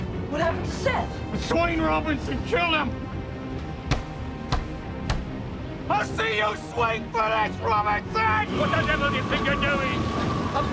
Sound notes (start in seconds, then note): 3.8 banging